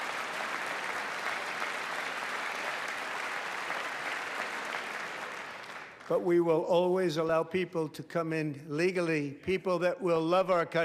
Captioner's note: applause